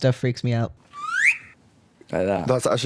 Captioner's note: slide whistle